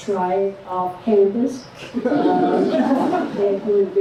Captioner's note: laughter